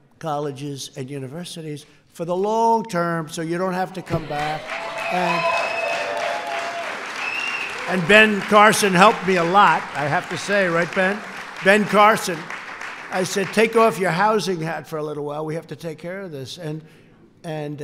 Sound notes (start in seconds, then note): 4.6 applause